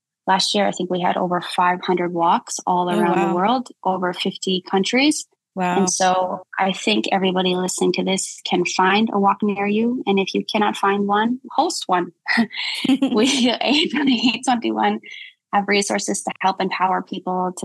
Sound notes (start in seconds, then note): 12.8 both chuckling